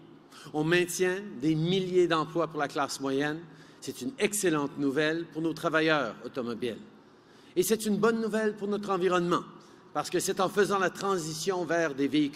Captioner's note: speaking in french